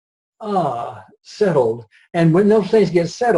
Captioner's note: sighs